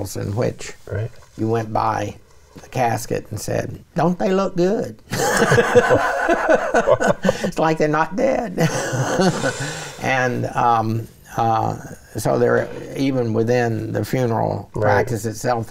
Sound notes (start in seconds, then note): 5.1 both laughing